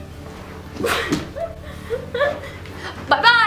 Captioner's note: laughter